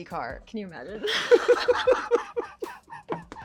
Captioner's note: laughing